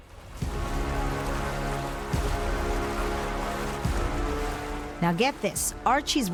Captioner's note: water sloshing; brooding music